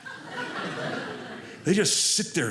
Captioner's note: audience laughing